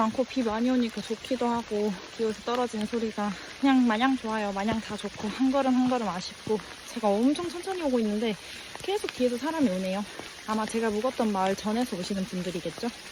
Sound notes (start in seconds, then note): 2.3 rain